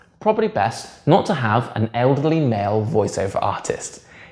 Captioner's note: none